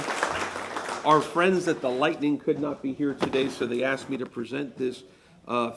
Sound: applause

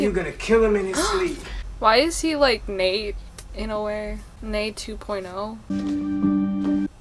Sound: gasps

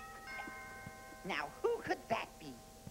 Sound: chimes

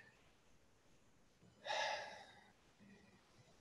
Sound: exhales

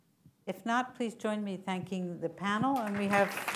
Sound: applause

